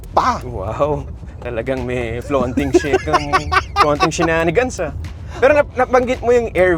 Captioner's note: laughs